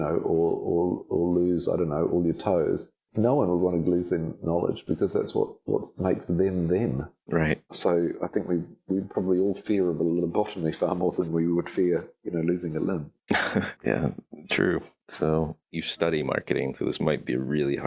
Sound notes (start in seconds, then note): 13.3 laughing